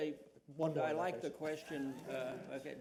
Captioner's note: laughter